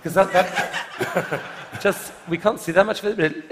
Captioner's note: laughter